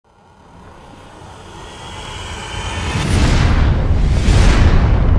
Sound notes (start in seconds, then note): 0.1 dramatic roaring and boom